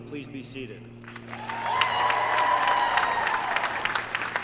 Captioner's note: applause